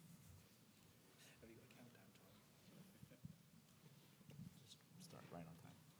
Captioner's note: announcer speaks faintly